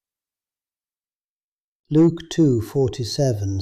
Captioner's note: pause